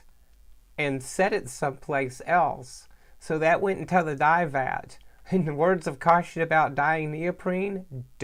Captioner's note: laughs